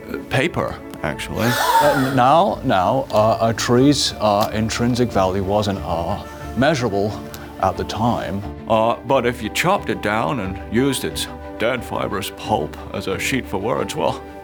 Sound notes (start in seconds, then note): 1.3 gasps